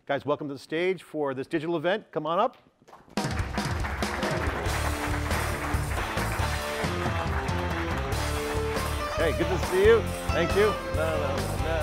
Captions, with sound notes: Guys, welcome to the stage for this digital event. Come on up. (audience clapping) (upbeat music) Hey good to see you, thank you.